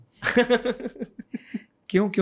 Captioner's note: laughter